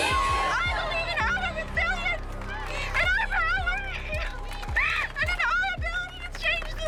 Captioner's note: sobs